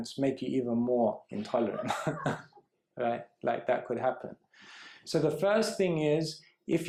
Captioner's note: laughs